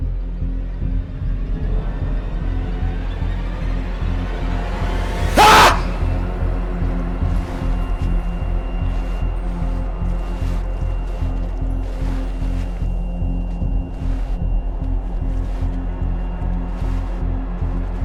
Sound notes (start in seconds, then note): 0.1 music intensifying; 5.0 intense music; 5.3 Carlos screaming